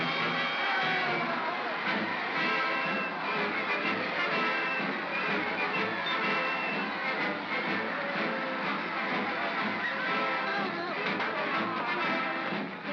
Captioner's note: sounds of battle; triumphant music